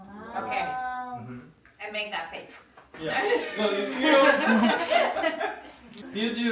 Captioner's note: laughs